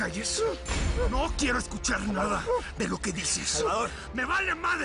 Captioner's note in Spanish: Gemidos de pánico del Indio